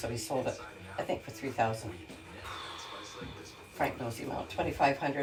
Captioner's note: exhales